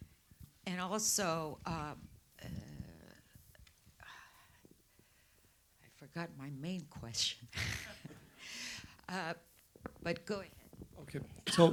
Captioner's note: laughter